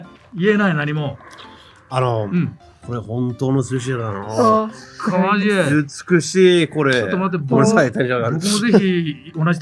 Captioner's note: laughs